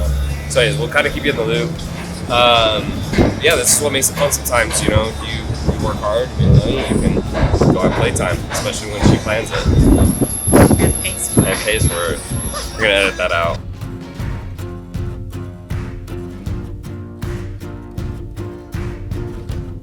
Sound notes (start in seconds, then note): 12.3 laughing; 14.2 adventurous music begins